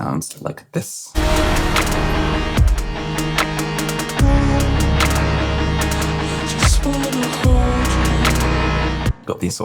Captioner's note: intense wall of sound